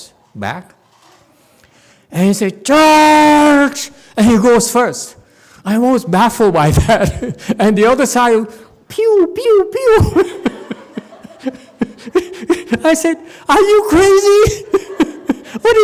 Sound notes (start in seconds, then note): 10.2 audience laughs, laughs